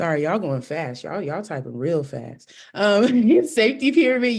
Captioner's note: laughter